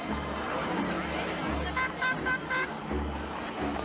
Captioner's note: horn tooting